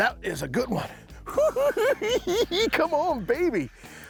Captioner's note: cackling